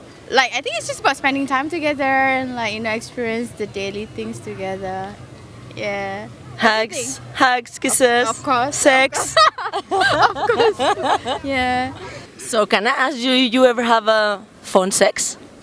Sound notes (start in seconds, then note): 7.8 laughing